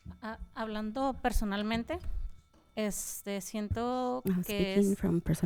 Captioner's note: panelist speaking in Spanish